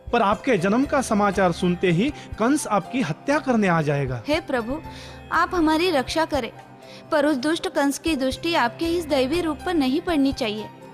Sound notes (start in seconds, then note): none